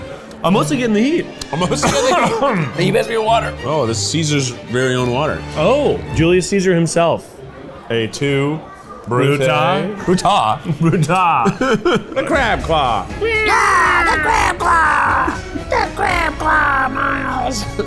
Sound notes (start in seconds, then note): 1.7 coughs; 11.4 both laughing; 13.6 both yelling